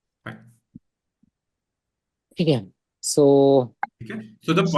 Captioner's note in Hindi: गला साफ़ करने की आवाज़